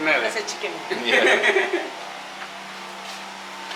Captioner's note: laughter